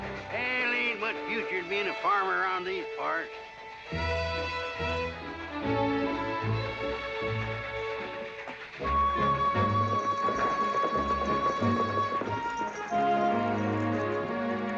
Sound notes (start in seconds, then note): 10.2 horse hooves trotting